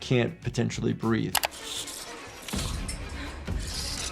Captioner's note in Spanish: clics de computadora; música dramática